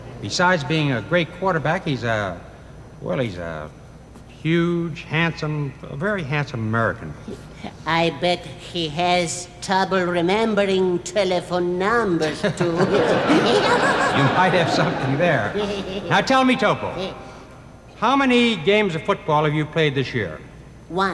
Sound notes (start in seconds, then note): 12.2 laughing